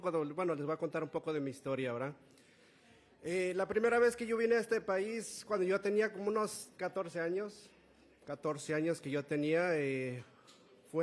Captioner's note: Spanish